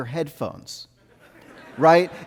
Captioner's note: audience laughing